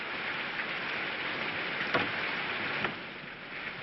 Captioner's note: none